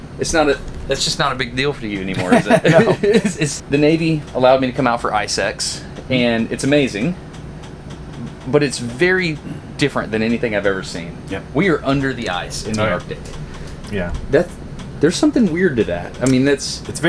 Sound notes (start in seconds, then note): 2.0 laughing